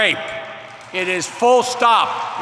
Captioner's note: applause